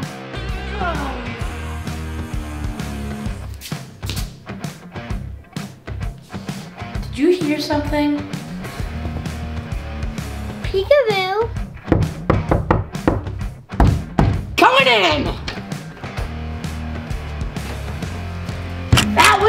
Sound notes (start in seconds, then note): 0.3 pop-rock music; 8.3 rock music; 11.8 knocking at door; 16.4 rock music